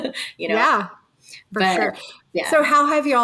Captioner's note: person laughing